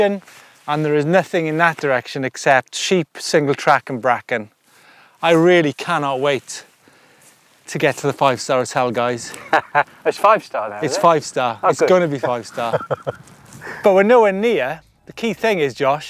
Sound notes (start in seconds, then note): 9.2 laughs